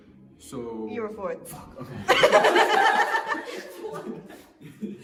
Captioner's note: laughter